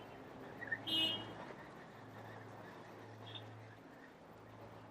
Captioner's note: car honks; whistling